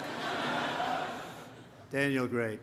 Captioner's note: laughter